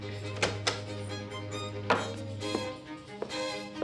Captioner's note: door clicks